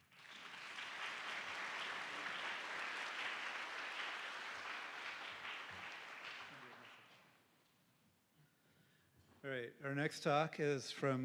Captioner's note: applause